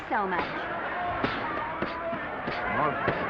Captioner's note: punches thudding; crowd cheering